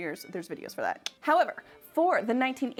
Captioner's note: makes clicking sound